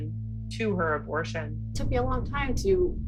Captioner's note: soundbite of archived recording